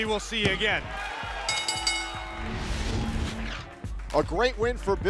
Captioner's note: bell ringing